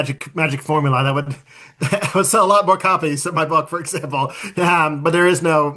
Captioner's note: laughs